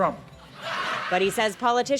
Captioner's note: audience laughs